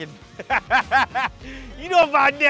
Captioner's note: laughing